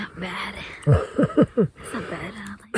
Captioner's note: laughing